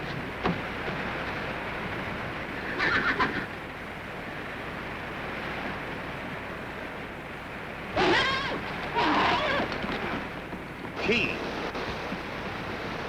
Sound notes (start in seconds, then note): 2.7 horse neighs; 7.9 horse neighing